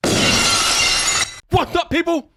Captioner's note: glass shatters